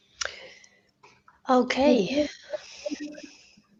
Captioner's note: laughter